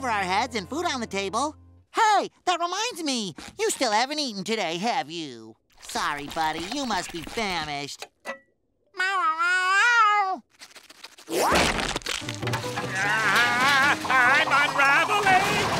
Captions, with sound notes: and food on the table. Hey, that reminds me. You still haven't eaten today, have you? Sorry, buddy. You must be famished. [meowing] [groaning] I'm unraveling!